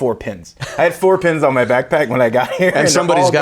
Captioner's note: laughing